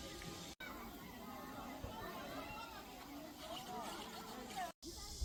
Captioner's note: bustling people